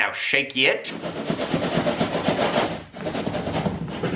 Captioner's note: box rattling